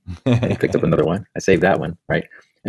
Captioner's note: laughs